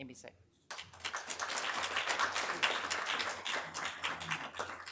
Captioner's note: audience applauding